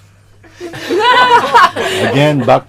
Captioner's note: laughter